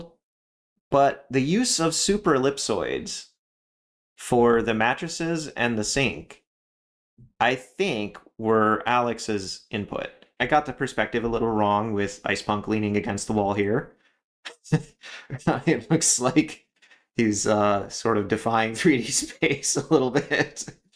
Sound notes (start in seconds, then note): 14.5 laugh